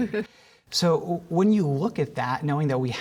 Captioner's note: laughter